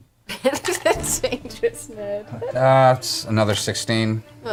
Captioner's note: laughs